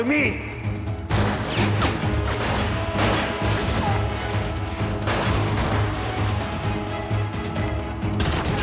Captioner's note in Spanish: Disparos